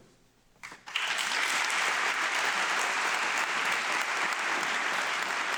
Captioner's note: audience clapping